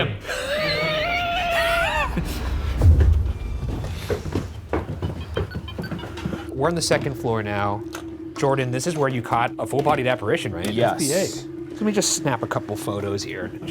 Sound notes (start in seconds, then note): 0.0 both laughing; 2.4 feet thudding; 2.5 ominous music; 5.0 tone beeping